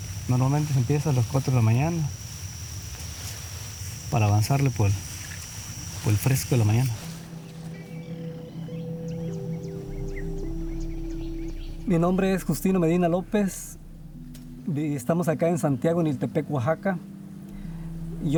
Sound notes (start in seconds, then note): 8.8 birds calling